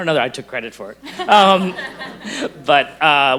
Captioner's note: group laughs